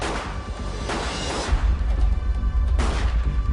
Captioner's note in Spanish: Disparos